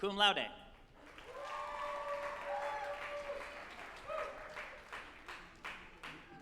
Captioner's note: group applauding and cheering